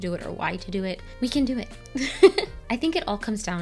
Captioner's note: chuckles